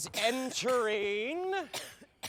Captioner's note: coughing continues